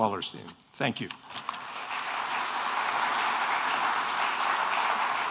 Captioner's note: audience applauds